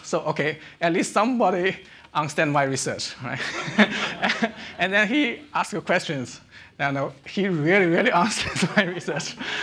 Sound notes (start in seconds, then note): 3.4 audience laughing; 3.4 laughing